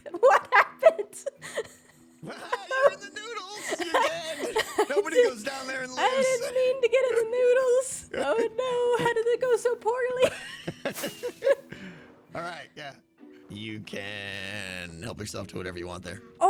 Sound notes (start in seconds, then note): 9.9 laughs